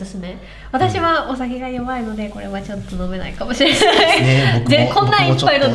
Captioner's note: laughs